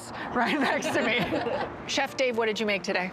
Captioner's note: laughter